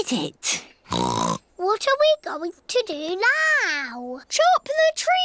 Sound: oinks

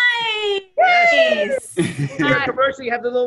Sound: shouting; Cash and Jessica laughing

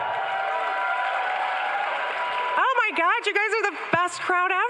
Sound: crowd cheering

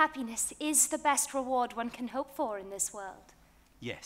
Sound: none

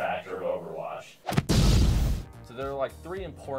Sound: explosions

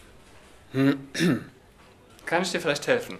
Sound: clears his throat

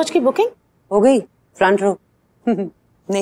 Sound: giggling

